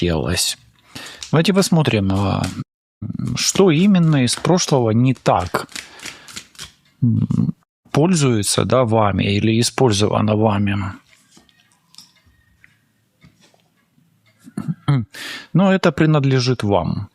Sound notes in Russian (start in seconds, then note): 10.4 откашливается